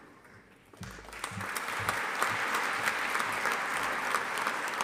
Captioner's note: audience applauding